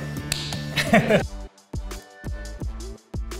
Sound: laughs

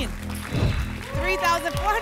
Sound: whoosh

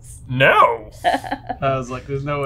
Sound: laughs

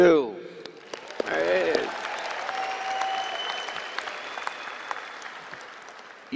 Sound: applause and cheering

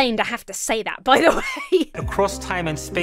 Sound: laughs

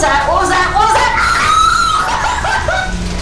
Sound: scream of I'm leaving you behind

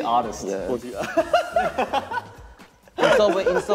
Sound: laughing

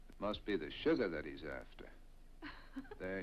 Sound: Kerstin laughs

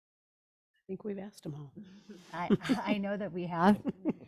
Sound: laughs

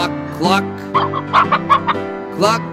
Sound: chicken clucking

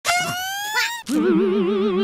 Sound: distorted noisemaker

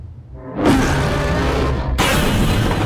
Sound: roaring

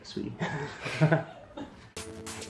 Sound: both laughing

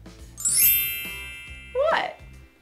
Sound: bells chiming

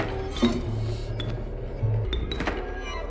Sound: door opens; door opens

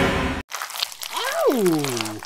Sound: eating sounds

